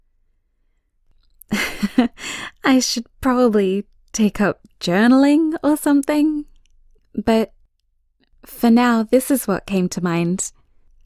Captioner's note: chuckles